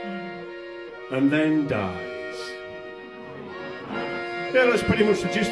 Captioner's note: laughter